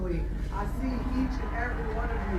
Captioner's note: audience on screen applauds